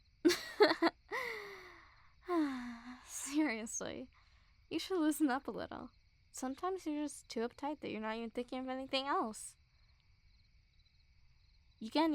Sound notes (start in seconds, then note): 0.2 soft laugh; 1.1 sigh